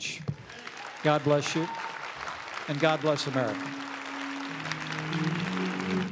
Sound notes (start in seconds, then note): 3.6 applause